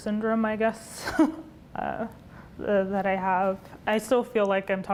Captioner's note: laughs